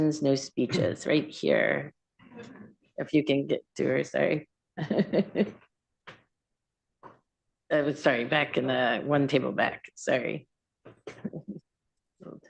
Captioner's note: laughs